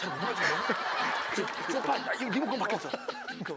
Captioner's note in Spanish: La risa